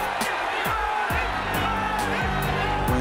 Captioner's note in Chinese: 觀眾呼喊Manny的聲音